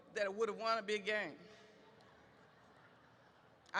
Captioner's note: audience laughs